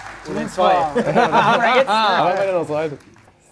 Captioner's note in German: Stimmengewirr